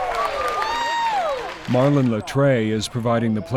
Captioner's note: crowd cheering